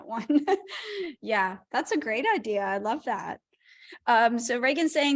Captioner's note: laughter